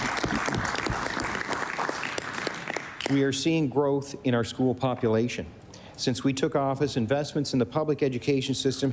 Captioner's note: applause